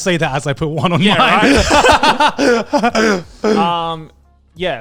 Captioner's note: everyone laughs